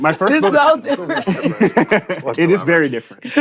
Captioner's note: laughter